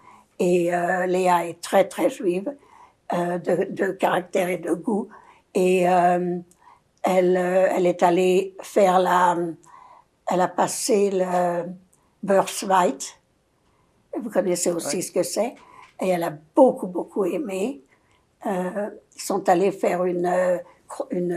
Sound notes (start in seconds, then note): 11.5 yiddish